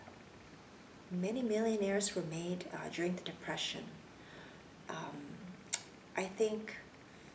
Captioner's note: clicks tongue